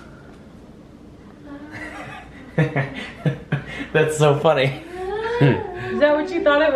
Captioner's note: laughs